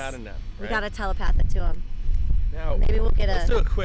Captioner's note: none